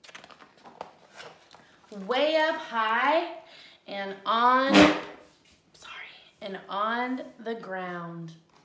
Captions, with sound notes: "Way up high and on," (chair shudders) sorry, "and on the ground.